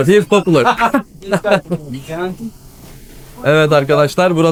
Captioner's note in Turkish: kahkaha